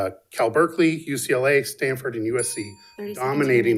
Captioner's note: bell dinging